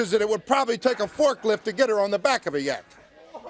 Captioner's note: crowd cheering